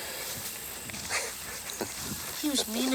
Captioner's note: Anthony chuckles